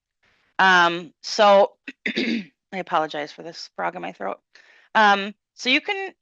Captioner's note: clearing throat